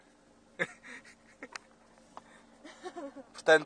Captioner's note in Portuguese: Risos